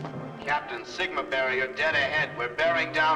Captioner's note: loudspeaker